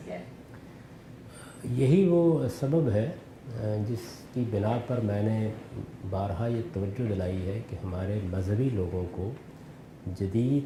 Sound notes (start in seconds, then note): 3.1 speaking urdu